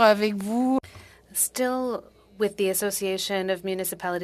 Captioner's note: speaking FRENCH